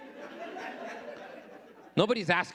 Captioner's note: audience laughing